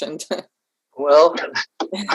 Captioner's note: laughs